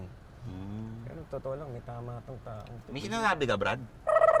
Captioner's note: whispering